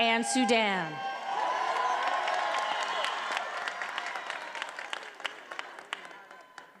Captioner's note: attendees applauding and cheering